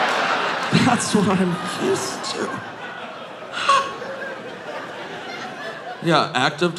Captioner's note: audience laughing